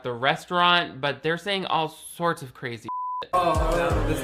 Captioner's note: beep